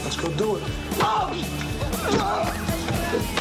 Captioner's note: screams in pain; sounds of glass breaking and the ensuing fight